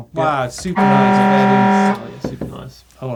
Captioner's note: horn blaring